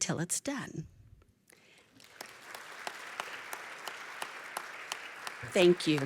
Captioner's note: applause